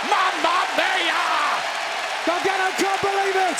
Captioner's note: crowd cheers